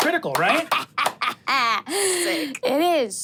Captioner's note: cackles